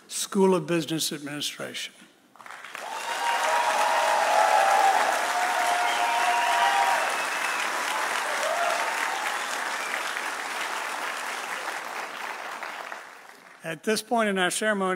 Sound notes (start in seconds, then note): 2.6 audience cheering; 3.0 audience applauding